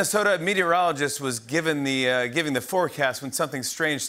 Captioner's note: none